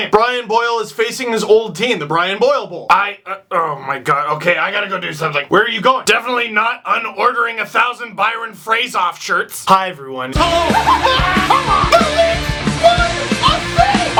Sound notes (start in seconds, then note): 10.4 screaming